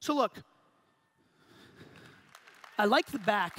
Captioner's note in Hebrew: הקהל מוחא כפיים